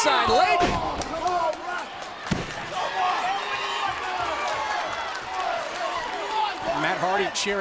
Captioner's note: crowd cheering